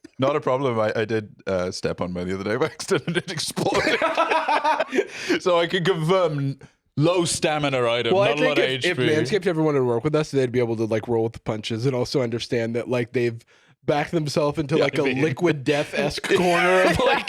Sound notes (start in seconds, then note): 2.6 both laughing